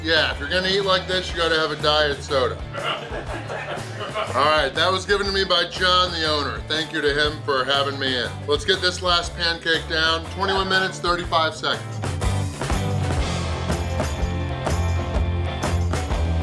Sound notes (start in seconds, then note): 2.5 crowd laughs; 12.5 upbeat instrumental music